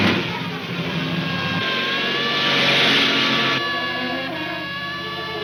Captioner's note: car buzzing fiercely